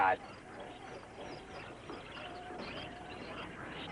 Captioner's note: birds chirping